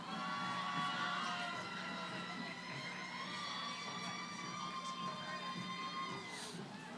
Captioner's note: cheering